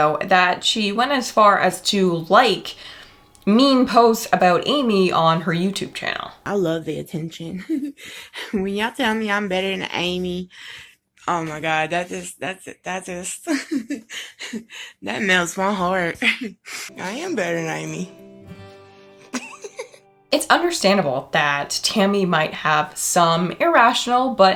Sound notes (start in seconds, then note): 13.4 laughing; 18.6 gentle music; 19.2 laughing